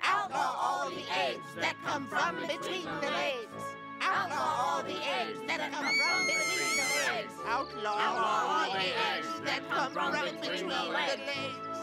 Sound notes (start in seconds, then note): 5.8 Shapey screaming